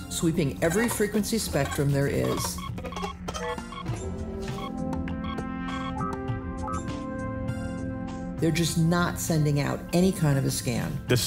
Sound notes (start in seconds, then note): 2.8 sensor scanning sound